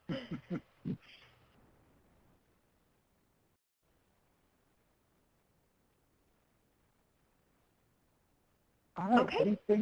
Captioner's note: pause